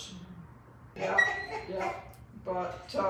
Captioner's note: laughs